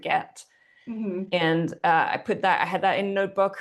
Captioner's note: hums